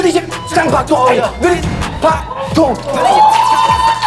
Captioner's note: insane heartbeat